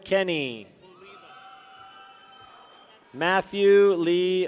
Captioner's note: people cheer